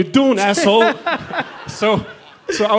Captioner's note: laughter